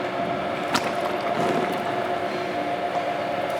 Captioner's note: whirring, splashing